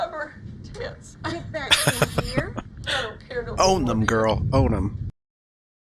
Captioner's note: laughing